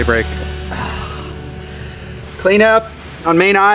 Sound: groaning

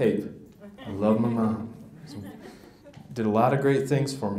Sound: audience laughs

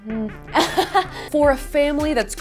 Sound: laughs

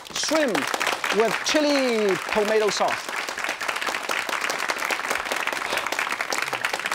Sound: audience claps

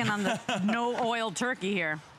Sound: laughter

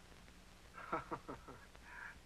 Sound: laughs

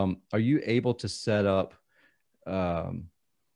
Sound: none

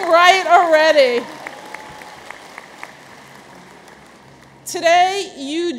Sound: audience applauds

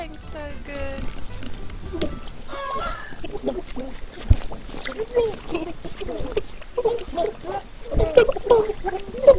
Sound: squelchy gurgling and bubbling

